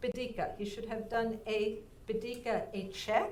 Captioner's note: speaking in foreign language